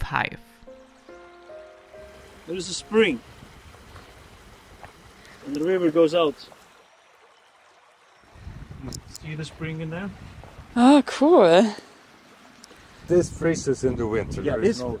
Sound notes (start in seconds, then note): 7.0 spring babbling